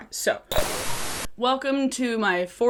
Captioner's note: TV static buzzing